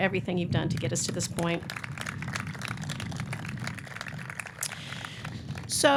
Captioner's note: audience clapping